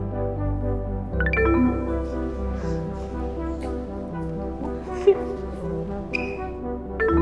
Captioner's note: electronics beep; gentle music; electronics beep